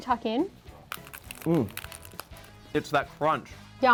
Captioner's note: tacos crunching